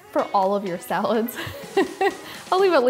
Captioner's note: laughing